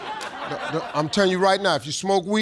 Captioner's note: audience laughing